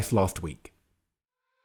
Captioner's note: voiceover